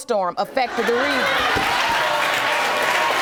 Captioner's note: audience applauding